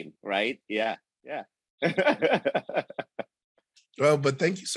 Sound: giggling

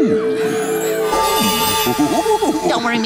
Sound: ooo-ing

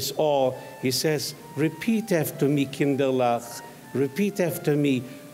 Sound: speaks in foreign language

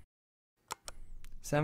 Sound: click

